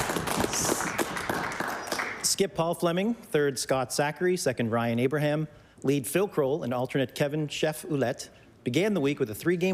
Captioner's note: applause